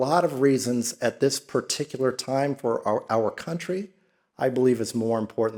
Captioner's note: none